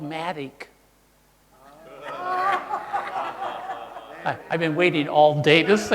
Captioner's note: audience laughing